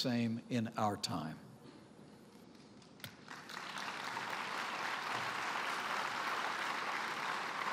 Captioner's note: applause